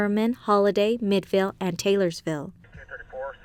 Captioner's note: police radio